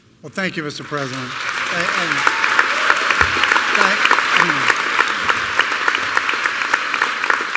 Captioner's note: applause